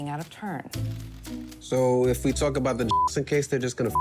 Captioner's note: beep